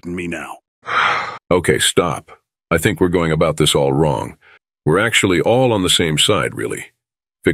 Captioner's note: sighs